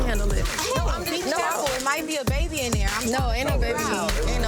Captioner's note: overlapping chatter